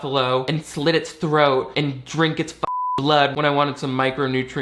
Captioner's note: beep